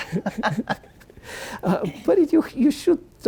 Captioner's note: laughing